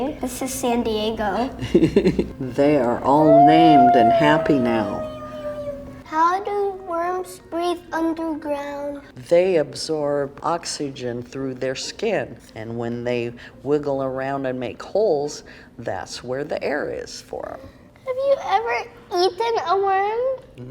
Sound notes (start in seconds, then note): 1.1 laughs; 5.2 girl squealing